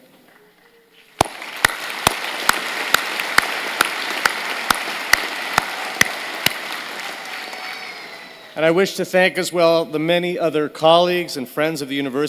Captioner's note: applause